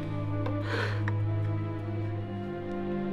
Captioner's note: sighs